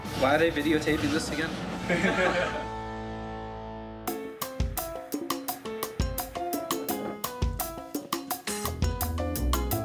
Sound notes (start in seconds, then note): 1.8 laughing; 4.0 upbeat music